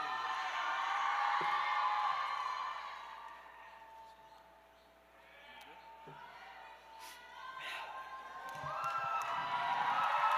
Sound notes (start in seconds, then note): 3.5 cheers